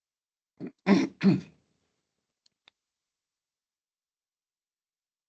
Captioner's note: clears throat